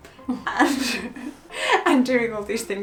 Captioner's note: laughs